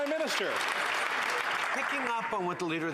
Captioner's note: some Applause